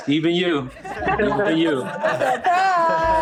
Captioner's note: all laughing